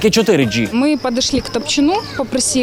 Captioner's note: spoken in Russian